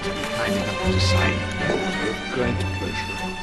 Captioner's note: Bunyi genta lonceng